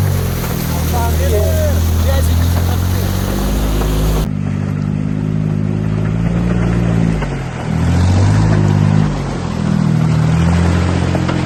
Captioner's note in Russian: Звук рёва мотора